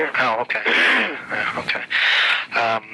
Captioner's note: man clearing throat